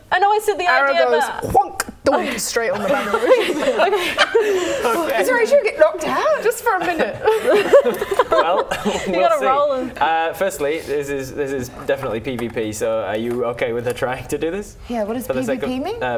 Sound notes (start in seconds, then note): 2.1 donk; 4.0 laughing; 6.6 laughing